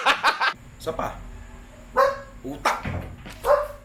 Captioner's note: barks